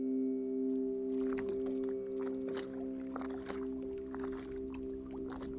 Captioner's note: water splashing gently